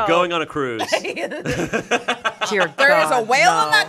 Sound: everyone laughs

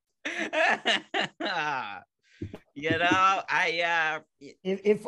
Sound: laughing

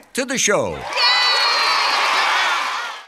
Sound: cheering

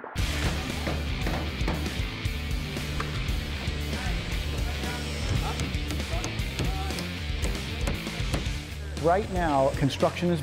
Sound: hammering noises

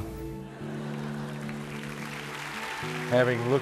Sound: applause

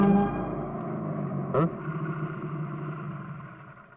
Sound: motorcycle approaching

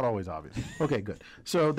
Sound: laugh

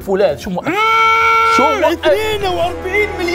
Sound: goku power up scream

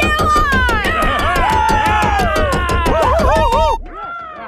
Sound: cheering, hooting, and hollering; muffled cheering, hooting, and hollering

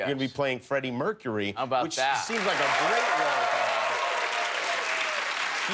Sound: cheers and applause

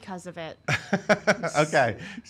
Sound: laughing

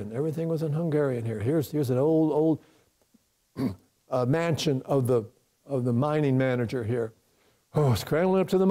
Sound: sigh

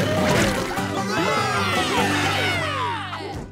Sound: cheering

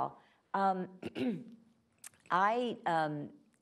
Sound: clears throat

